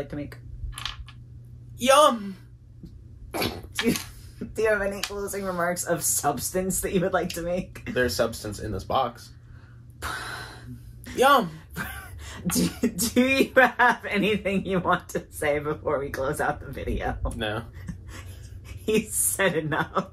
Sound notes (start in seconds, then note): 1.4 moans; 10.0 sighs; 10.8 moans